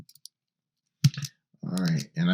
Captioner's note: mouse clicking